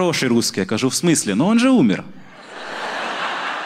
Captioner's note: with russian accent